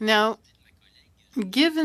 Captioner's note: speaking French